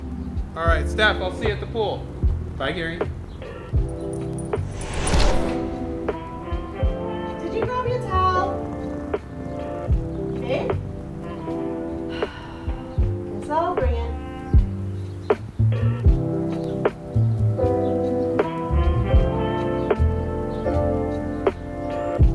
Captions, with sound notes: Alright Steph I'll see you at the pool. Bye, Gary. Did you grab your towel? Babe? (sigh) I guess I'll bring it. Created by Dylan & Steph Coleman